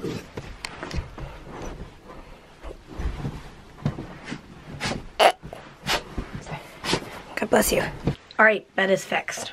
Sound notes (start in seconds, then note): 5.2 sneezing; 5.2 snorts